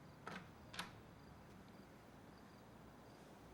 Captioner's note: door clicks